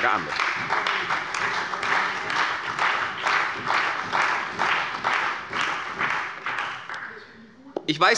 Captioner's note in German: Beifall bei der CDU und dem BÜNDNIS 90/DIE GRÜNEN